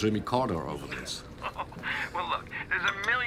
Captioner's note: laughs